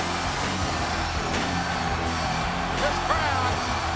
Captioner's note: audience cheering